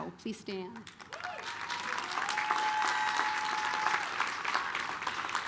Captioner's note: applause, cheering